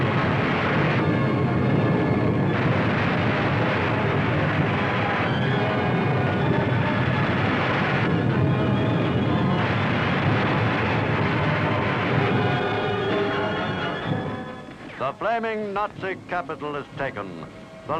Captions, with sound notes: (fire roaring) (dramatic chaotic music) The flaming Nazi capital is taken.